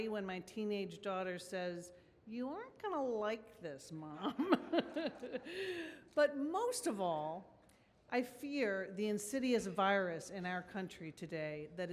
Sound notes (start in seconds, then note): 4.2 woman laughs; 4.4 audience laughs